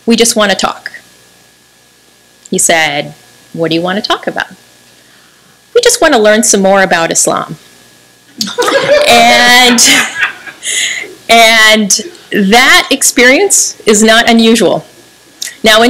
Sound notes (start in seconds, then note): 8.4 laughter